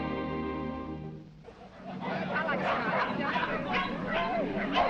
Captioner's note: background: large crowd sound